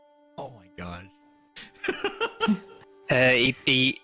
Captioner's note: giggles